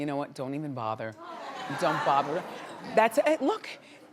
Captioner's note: audience laughs